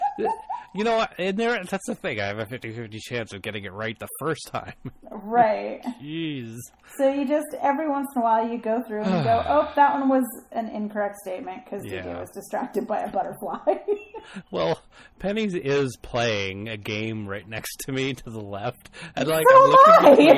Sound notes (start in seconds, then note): 9.0 sighs; 13.0 both laugh